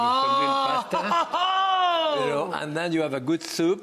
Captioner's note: audience exclaims